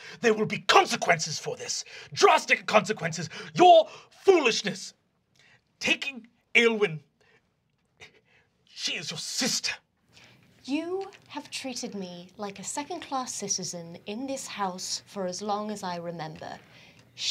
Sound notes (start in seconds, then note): none